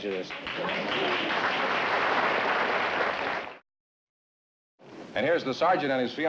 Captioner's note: applause